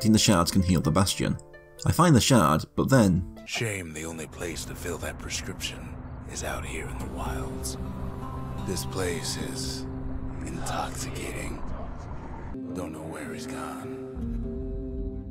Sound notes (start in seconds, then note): 3.6 in-game audio